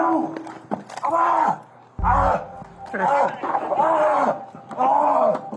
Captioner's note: George Floyd exclaims